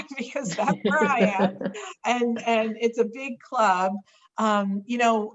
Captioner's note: laughter